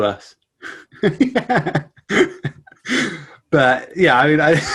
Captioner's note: laughs